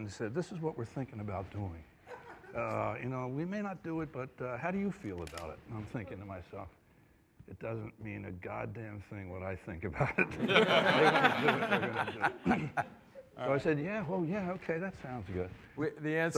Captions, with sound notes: "This is what we're thinking about doing. "Uh, we may not do it, but how do you feel about it?" And I'm thinking to myself, "It doesn't mean a goddamn thing what I think about it. -"If they want to do it, they're gonna do it." -(ALL LAUGHING) So, I said, "Oh, yeah, okay. That sounds good."